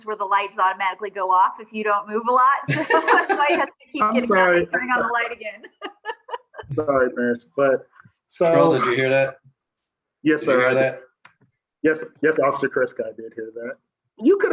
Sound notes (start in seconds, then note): 2.6 laughs; 5.5 laughs